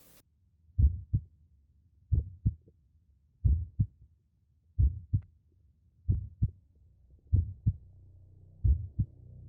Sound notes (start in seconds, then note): 1.5 heart beating